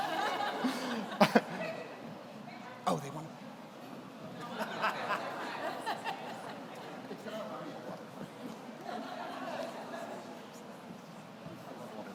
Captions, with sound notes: (people laugh) Oh they want... (speaking off mic) (people laugh) (speaking off mic)